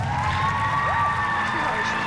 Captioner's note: audience cheers